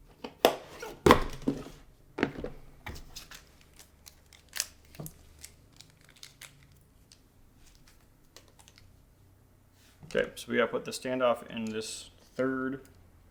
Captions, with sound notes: (packaging crinkling) Okay, so we gotta put the standoff in this third.